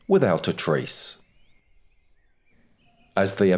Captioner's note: birds chirping